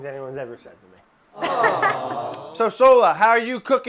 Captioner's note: laughing